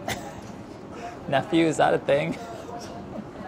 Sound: chuckles

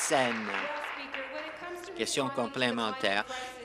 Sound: applause

